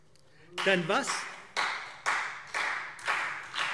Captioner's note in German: Beifall CDU, BÜNDNIS 90/DIE GRÜNEN und SPD